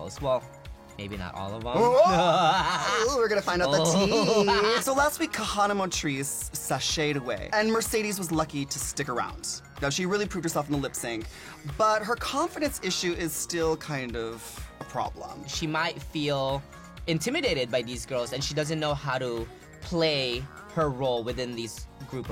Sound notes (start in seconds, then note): 1.8 gasps; 1.8 laughs